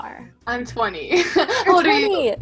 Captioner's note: laughs